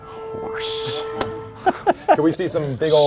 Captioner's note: laughs